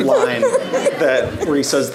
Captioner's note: audience laughing